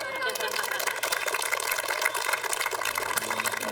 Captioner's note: applause